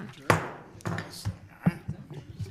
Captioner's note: gavel pounds